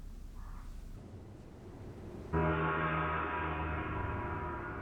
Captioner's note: gong